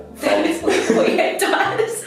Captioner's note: both laughing